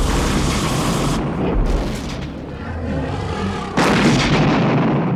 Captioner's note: fire blazes; dragon growls